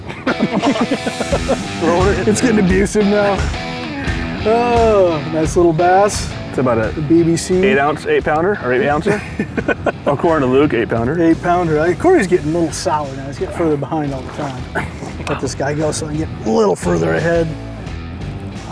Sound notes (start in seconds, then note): 0.0 laughter